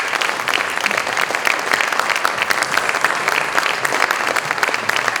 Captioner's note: applause continues